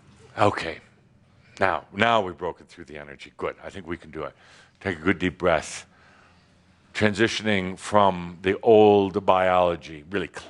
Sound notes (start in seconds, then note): none